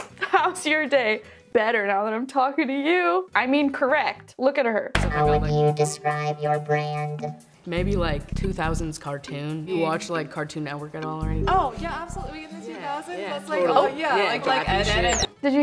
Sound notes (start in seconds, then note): 12.9 automatic feeder whirring